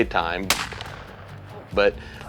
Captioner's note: gunshot